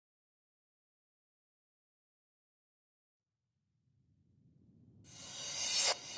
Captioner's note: silence